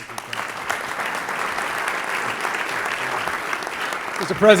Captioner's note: applause